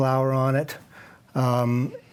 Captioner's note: none